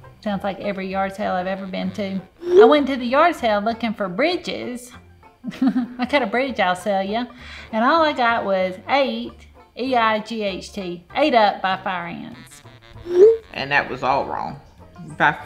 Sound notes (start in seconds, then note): 5.5 laughs; 11.5 text whooshing